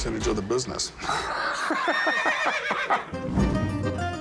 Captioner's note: laughs